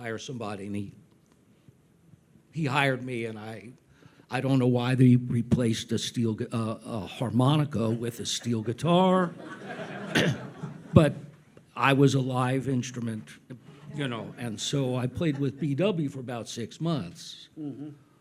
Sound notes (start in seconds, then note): 9.2 audience laughs